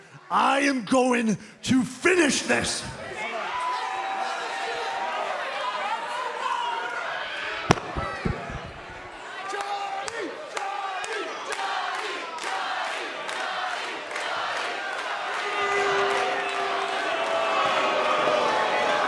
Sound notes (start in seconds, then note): 9.8 fans chanting johnny